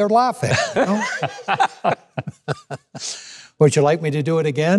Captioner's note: laughing